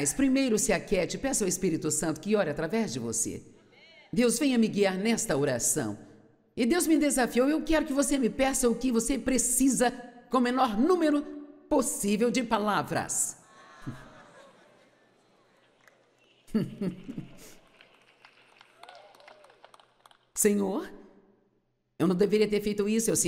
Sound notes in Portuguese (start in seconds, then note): 13.5 audiência ri